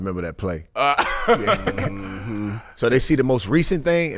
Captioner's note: laughing